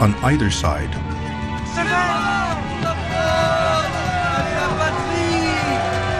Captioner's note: soldiers shouting in French